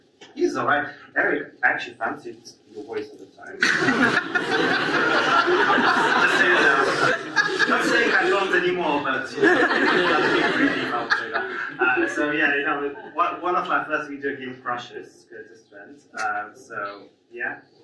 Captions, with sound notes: When I played that, I'm like, "He's all right." Eric, I actually fancied your voice at the time. (audience laughs) I'm not saying I don't anymore. (audience laughs) So yeah, one of my first computer game crushes, Kurtis Trent.